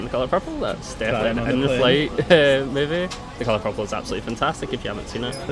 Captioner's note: giggles